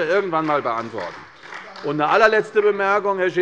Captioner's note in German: Beifall bei der CDU und dem BÜNDNIS 90/DIE GRÜNEN